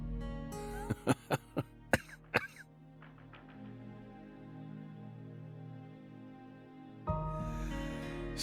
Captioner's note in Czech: temný smích